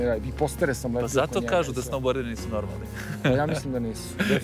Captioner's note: laugh